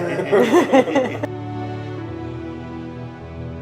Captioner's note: all laughing